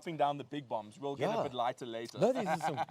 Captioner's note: laughs